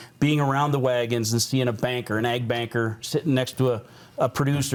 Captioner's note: none